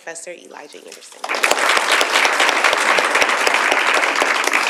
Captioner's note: audience applauds